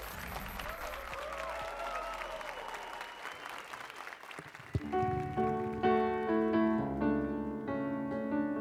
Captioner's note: applause and cheers